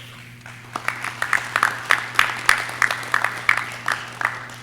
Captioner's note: audience clapping